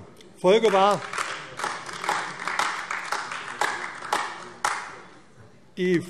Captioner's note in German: Beifall AfD